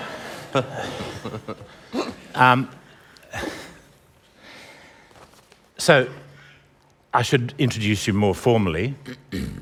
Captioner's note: laughter